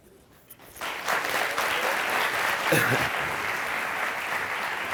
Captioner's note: audience applauding